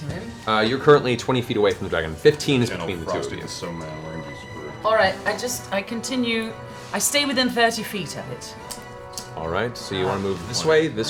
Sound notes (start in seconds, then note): none